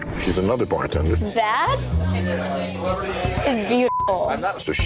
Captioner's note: beep